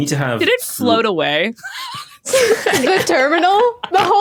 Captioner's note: laughs